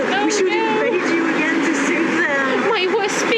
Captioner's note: laugh